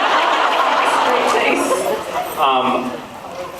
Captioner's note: laughs